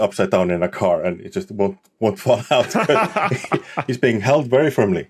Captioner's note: laugh